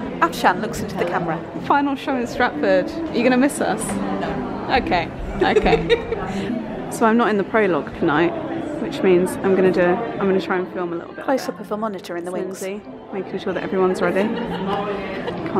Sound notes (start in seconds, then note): 5.2 laughs